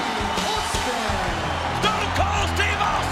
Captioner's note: audience applauds and cheers